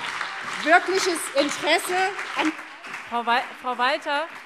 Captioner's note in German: Beifall BÜNDNIS 90/DIE GRÜNEN und CDU - Zurufe Freie Demokraten